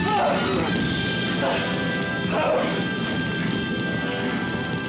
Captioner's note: Bill cries out; flames crackle; suspenseful music; Bill groans & whimpers; flames crackle; suspenseful music